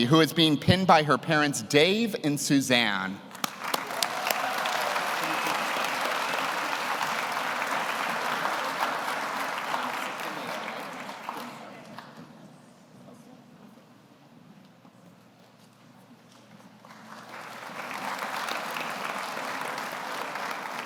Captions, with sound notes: who is being pinned by her parents, Dave and Suzanne. (audience cheers) (audience applauds) (audience applauds)